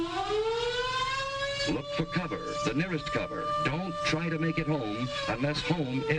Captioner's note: loud siren